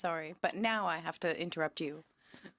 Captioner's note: speaking French